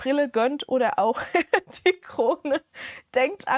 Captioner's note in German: gelächter